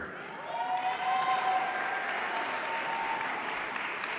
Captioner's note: audience cheering